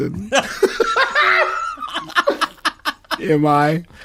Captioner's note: laughter